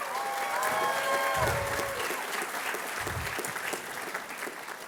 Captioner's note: applause